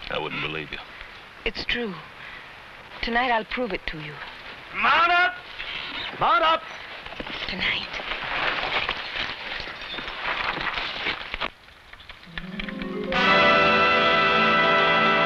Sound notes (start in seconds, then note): 7.8 whispers; 12.4 tense music